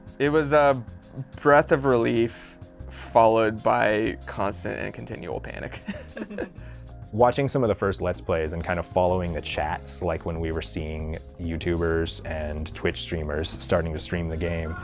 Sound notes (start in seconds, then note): 5.8 laughing